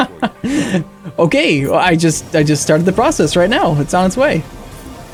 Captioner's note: laughing